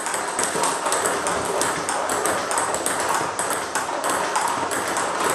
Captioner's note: ball ping pong hitting continues